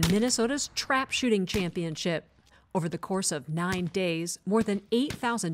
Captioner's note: gunfire